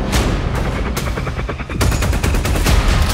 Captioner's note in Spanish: turbina de helicóptero